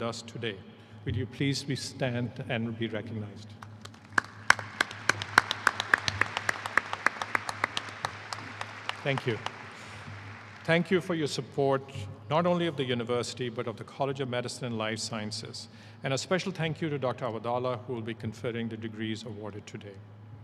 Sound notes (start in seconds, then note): 11.7 applause